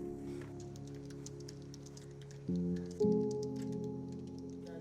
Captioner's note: keyboard taps